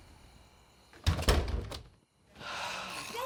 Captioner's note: door slamming; bucky sighs